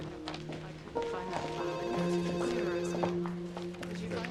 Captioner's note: phone ringing